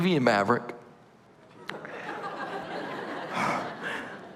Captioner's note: laughter